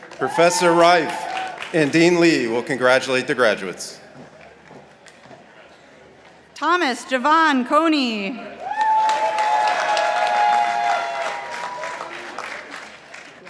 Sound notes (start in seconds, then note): 8.6 participants applauding